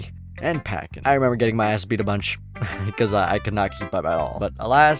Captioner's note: laughs